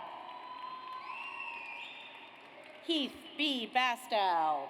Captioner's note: audience applauds